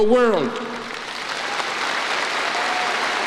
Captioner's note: applause